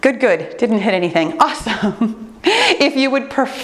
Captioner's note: laughs